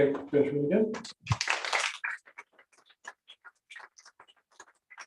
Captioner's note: applause